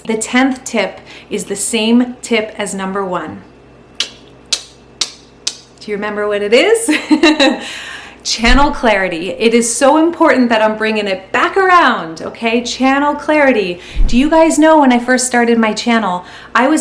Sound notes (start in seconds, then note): 4.0 tongue smacking